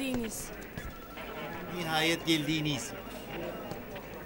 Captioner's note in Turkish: Taklit ediyor